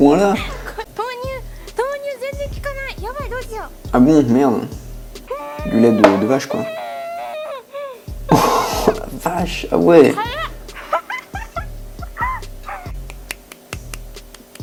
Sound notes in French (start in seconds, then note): 5.3 bruit de souffrance